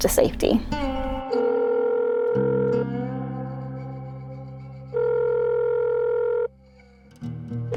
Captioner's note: phone ringing